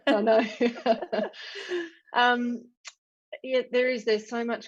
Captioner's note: laughs